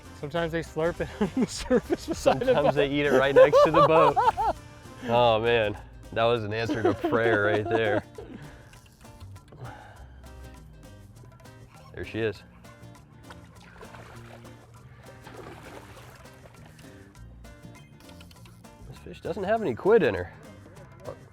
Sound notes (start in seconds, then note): 6.6 laughs